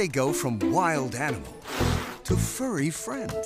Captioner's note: hisses